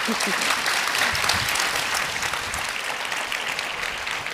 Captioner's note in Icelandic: fagnaðarlæti